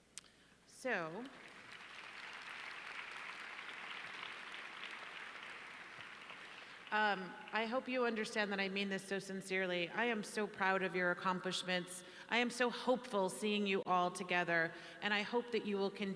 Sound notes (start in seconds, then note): 4.0 applause